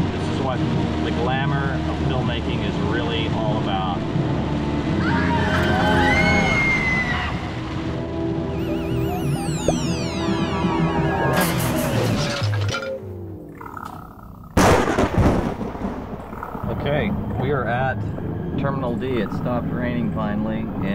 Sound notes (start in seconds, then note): 4.9 people screaming; 8.2 UFO buzzing; 8.2 ominous music; 11.7 engine powering down; 13.4 creature growling; 14.6 thunder rumbling